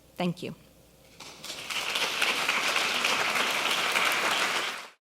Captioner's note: applause